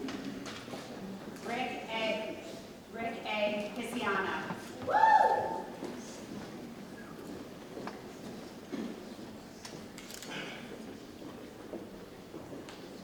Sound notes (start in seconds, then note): 4.8 lady cheers; 10.0 camera clicks